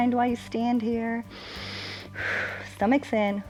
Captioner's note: inhales and exhales